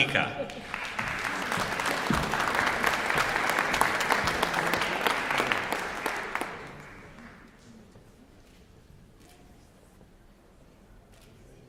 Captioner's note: applause